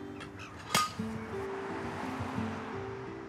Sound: clack!

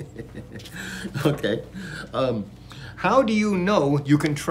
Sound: laughs

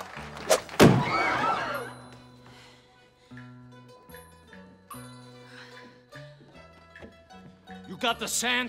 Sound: crowd gasping

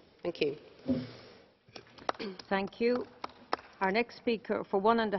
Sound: clapping

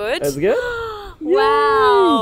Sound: inhales

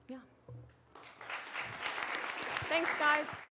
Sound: applause

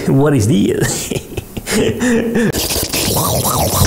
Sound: maniac laughter

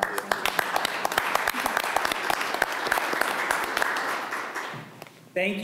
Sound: applause

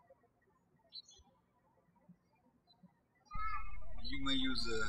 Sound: birds chirping

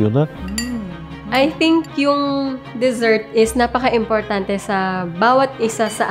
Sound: speaking in foreign language

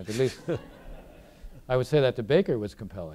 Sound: audience laughing

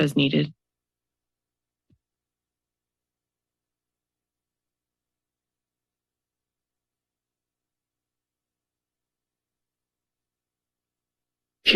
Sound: silence

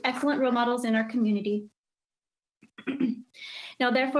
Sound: coughs

